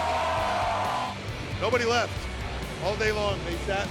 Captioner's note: cheers & applause